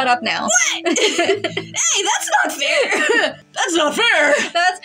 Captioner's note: both Laugh; cough; deeper Voice